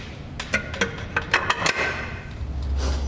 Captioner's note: metallic sounds